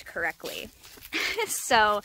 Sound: laughs, almost walking into a branch

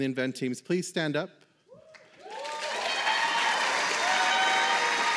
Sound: applause

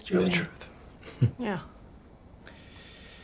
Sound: chuckles

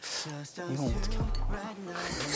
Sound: the sound of his heart

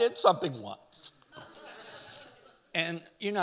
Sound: audience laughing

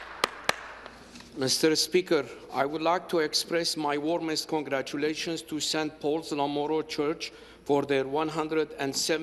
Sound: some Applause

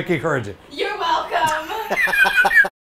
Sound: laughs

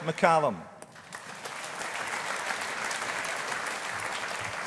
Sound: audience applauding

